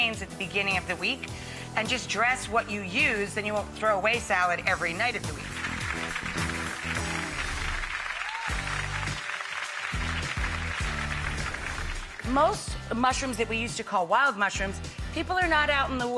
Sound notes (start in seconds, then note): 5.3 clapping